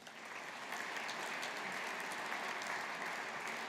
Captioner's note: audience applauding